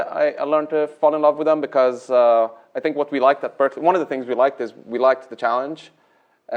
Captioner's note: none